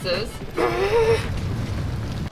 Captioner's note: grunts